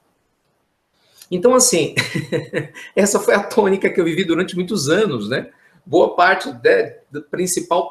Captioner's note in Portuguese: risos